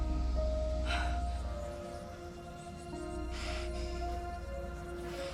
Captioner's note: voices whispering